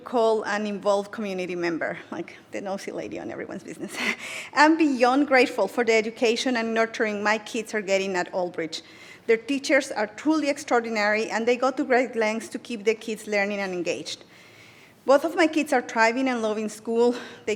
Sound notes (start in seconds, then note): 4.2 laughs